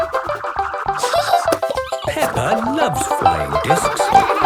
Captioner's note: giggling; snorting and laughter